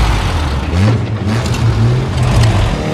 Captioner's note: engines revving